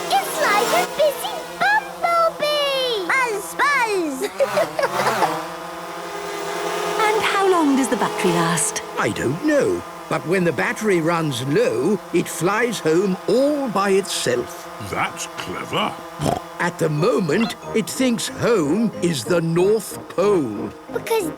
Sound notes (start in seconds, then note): 4.2 Peppa laughing; 14.6 snorting